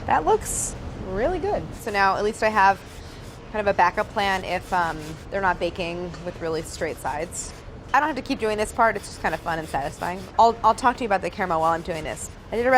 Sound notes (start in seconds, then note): none